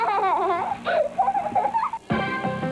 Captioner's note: girl giggling